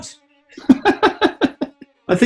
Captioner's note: laughing